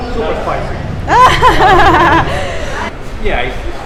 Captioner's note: laughs